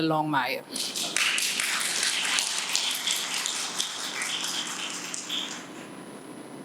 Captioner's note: applause